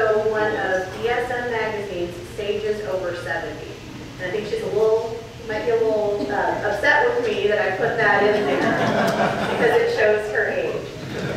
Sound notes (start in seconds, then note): 8.2 audience laughs